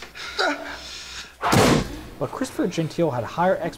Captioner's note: thud